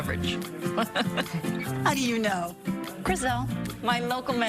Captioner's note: laugh